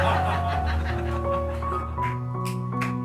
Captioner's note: laughter